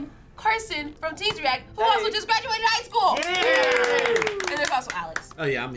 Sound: all cheering

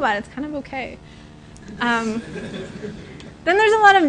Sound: laughter

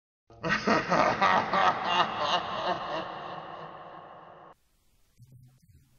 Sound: maniacal laughter

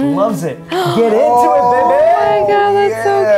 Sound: cheering

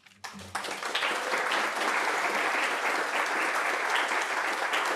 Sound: audience applauding

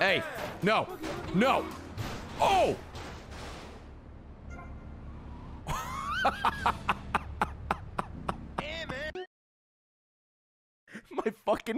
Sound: laughs

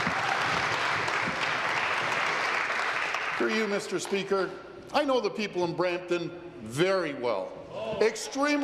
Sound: applause

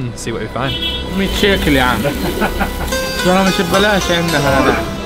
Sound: speaking in Arabic

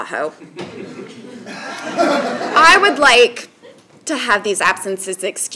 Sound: laugh

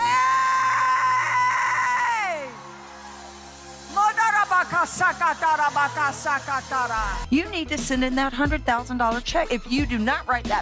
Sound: yelling

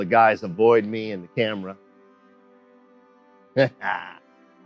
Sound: laughs

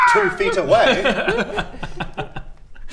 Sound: laughs sarcastically

